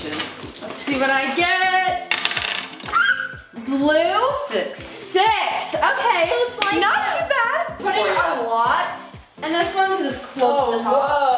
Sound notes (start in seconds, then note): 1.7 jangling; 2.9 screeching